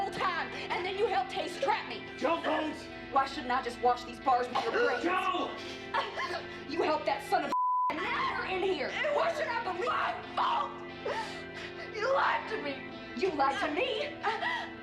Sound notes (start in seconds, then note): 5.5 Rowena gasping